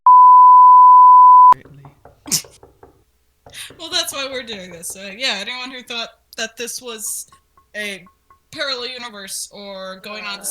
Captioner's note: door knocks echo